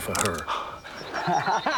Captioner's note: cocks gun